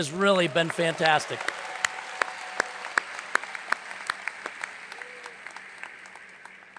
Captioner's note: audience applauds; hands clapping